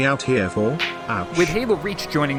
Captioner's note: smack